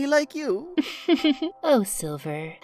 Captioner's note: candle laughs